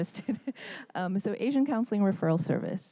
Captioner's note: laughter